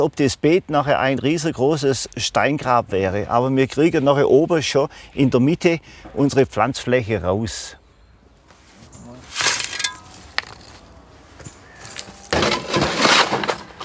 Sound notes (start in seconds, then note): 9.1 sound of shovel; 12.3 stones rattle